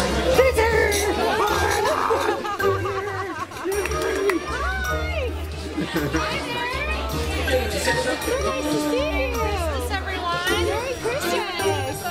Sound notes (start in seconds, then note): 1.2 laughter